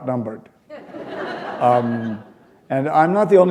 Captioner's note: laughter